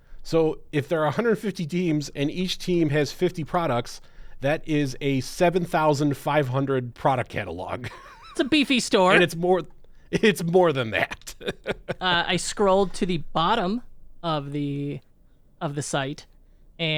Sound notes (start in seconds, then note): 7.8 chuckles; 10.8 laughs